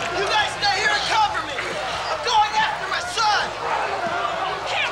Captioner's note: crowd shouting